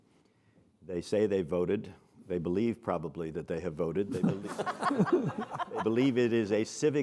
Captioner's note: laughs